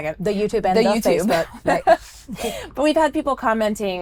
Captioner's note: laughs